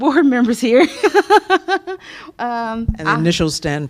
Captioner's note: laughter